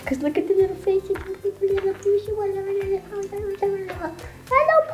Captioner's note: speaking in gibberish